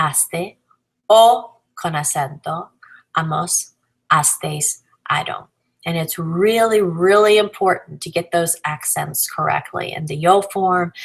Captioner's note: con acento